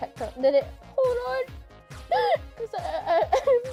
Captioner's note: hitching with sob